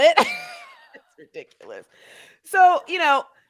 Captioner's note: laughing